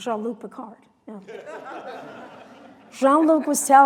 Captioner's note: laughter